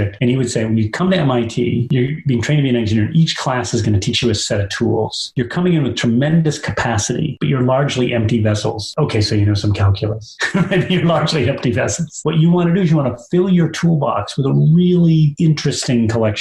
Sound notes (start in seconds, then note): 10.2 laugh